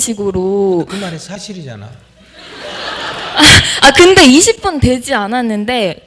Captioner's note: audience Laughter